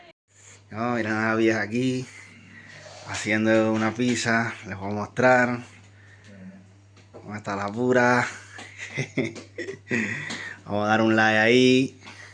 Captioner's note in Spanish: risas